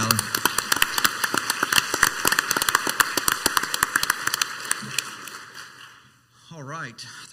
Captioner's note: council members and audience applauding